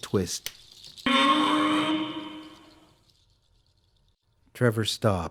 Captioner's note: SFX: strange animal-like cry